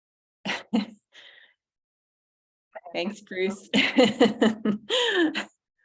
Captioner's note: laughs